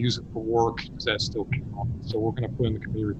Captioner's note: faintly speaking